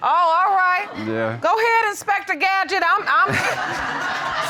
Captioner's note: audience laughing